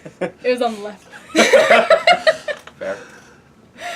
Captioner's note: laugh